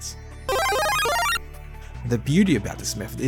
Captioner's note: mushroom Power Up Sound